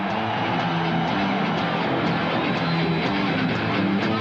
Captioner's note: audience cheering